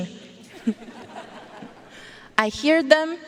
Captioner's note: audience laughing